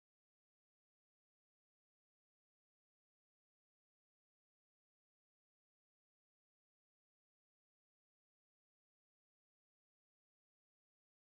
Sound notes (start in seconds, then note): none